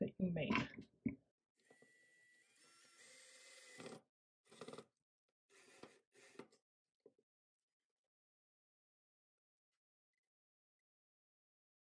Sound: quiet drill sounds

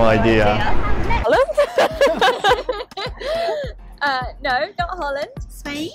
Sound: laughs

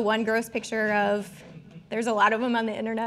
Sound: audience chuckling

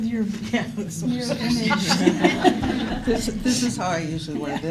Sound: laughter

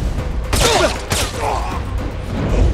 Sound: silenced gunshots

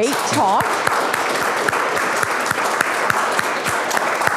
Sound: applause

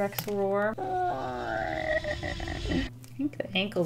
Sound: roars, quietly

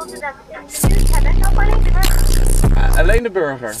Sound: subwoofernoise

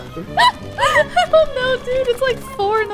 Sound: laughs

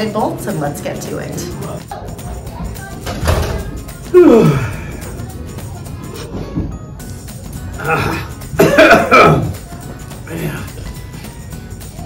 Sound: yawn

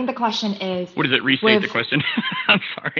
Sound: laughs

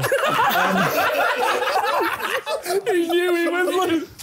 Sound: laughing

